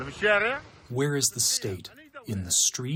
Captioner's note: through translator